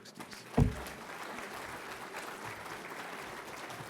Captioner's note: audience clapping